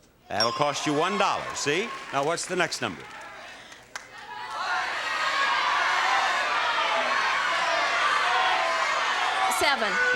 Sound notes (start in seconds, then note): 4.1 audience shouting